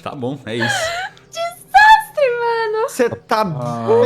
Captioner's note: laughing